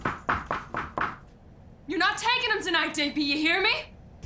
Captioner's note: knock on door